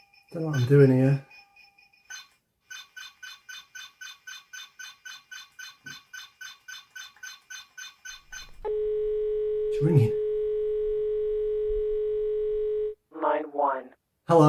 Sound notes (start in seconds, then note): 6.4 phone rings